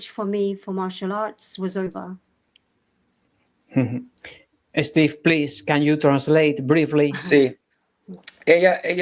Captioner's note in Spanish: carraspeo